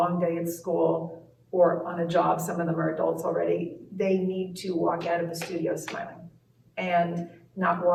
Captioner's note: claps hands between words